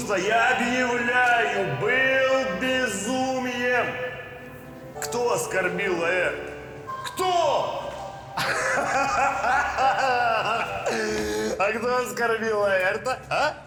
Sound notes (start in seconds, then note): 8.3 laughs